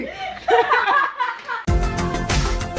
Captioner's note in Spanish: Risas